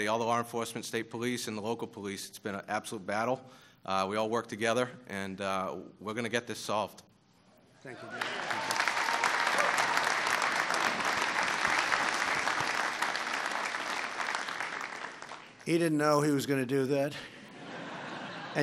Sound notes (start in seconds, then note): 7.0 applause; 17.2 laughter